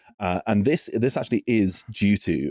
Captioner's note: none